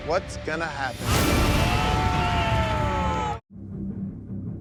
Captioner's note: yelling